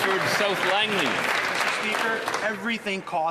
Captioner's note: applause